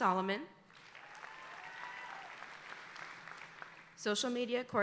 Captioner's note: audience applauding